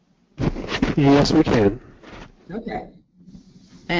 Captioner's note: male Voice